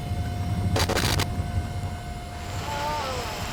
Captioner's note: static from computer; torchered man moans and knife on glass type sounds from radio